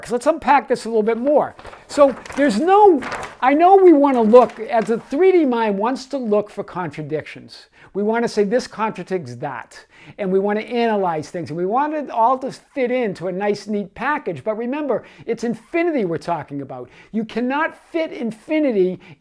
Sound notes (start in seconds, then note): 1.0 paper rustling